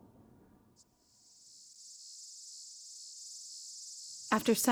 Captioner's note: insects buzzing